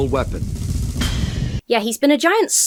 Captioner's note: ship powers down